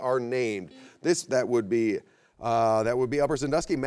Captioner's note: buzzer beeps